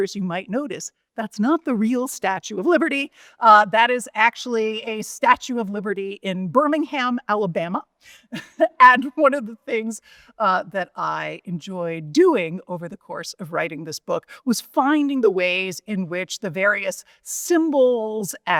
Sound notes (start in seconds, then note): 8.3 chuckles